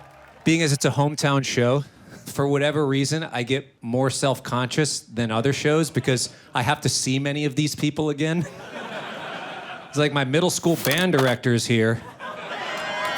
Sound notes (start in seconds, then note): 8.4 audience laughs; 12.4 audience cheers